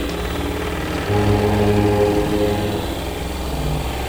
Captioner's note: machine whirring